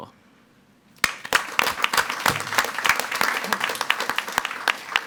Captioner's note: all applauding